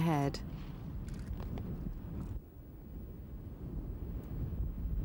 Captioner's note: wind blowing